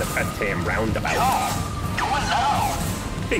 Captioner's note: Clamdip on loudspeaker